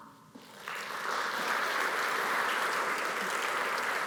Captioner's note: audience applauds